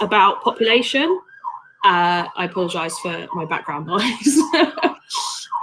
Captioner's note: siren sound